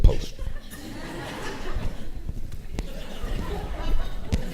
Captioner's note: audience laughing